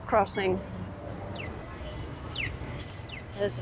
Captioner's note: chirping